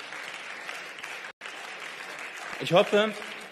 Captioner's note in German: Beifall